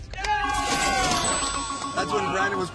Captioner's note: cheering